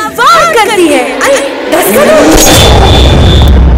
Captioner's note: Swiping sound